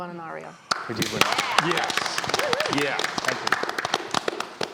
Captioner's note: crowd applauds